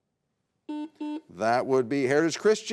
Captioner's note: button blips